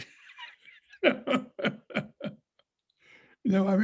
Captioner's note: laughs